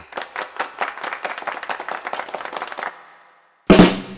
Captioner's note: audience applause